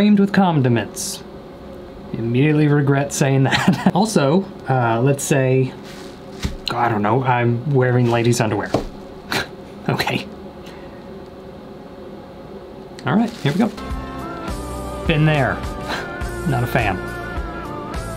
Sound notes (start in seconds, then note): 3.4 chuckles; 9.1 chuckles